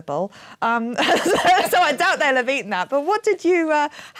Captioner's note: laughing